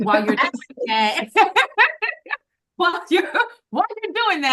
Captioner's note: laughing